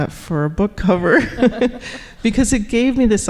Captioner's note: laughing